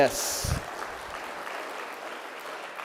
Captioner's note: applause